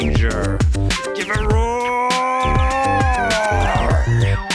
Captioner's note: Scream in Derp-lish